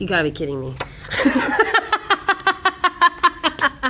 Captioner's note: laughing